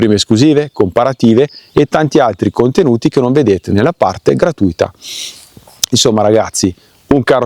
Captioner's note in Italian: sbuffare